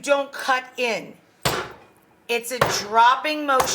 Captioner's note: mallet thumping